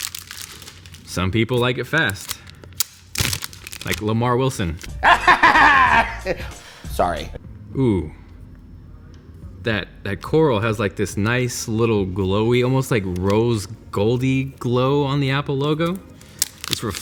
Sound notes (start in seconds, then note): 5.0 maniacal laughter